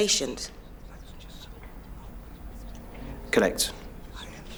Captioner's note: whispering